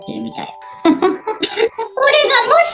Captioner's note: laughs